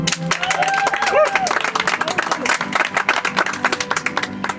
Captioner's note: audience applauds